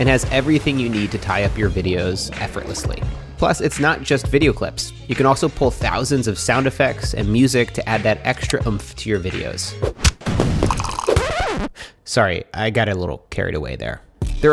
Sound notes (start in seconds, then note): 9.8 record scratches; 9.8 punch thuds; 10.0 fireworks exploding; 10.8 coffee trickles